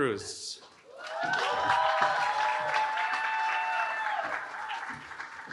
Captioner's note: cheering